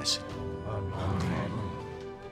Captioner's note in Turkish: Hep bir ağızdan